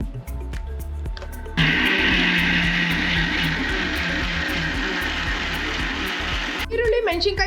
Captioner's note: mixer noise